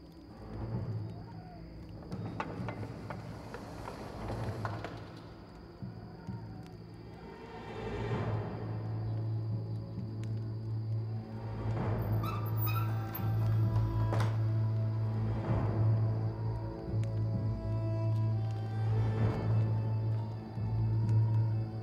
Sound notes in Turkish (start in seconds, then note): 0.0 Ateş çıtırtısı sesleri; 0.0 Rüzgâr sesi; 2.0 Kapı açılma sesleri; 12.1 Kapı kapanma sesleri; 12.2 Kapı gıcırtısı sesi